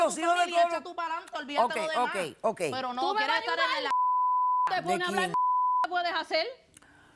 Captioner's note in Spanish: Comentarios al unísono